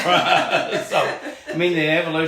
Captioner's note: laughing